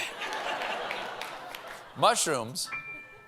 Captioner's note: laughter